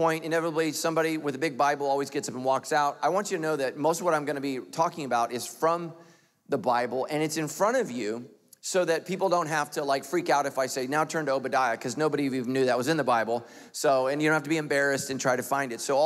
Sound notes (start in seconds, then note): none